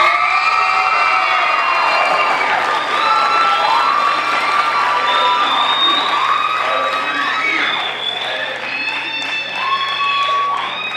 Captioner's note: crowd cheering